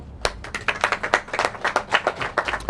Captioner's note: applause